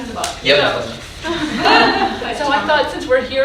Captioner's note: audience laughing